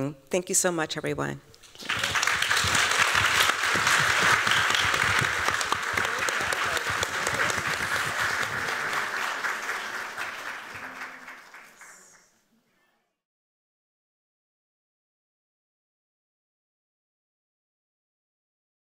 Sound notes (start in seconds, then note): 2.1 applause